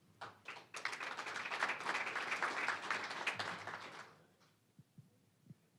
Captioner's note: applause